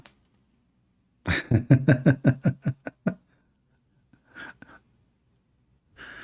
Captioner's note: Ketawa